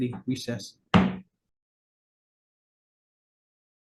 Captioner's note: gavel thuds